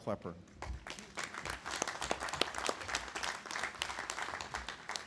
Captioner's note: audience applauding